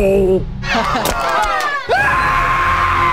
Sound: student laughs; student screams

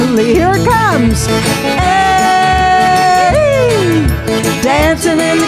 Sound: yelling

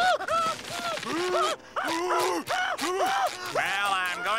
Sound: screaming

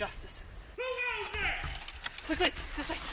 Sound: loud Voice

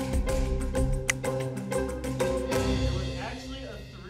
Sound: click

